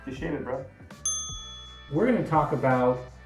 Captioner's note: sparkle chiming